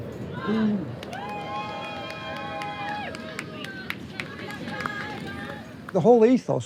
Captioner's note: crowd cheering